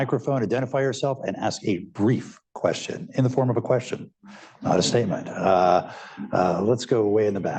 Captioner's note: laughter